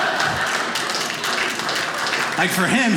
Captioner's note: audience applauding